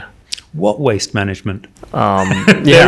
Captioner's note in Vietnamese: cười